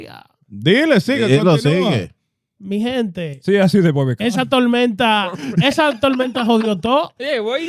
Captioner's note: speaking In Foreign Language